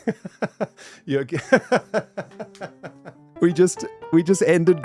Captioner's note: laughs harder; laughs